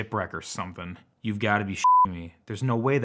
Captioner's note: beep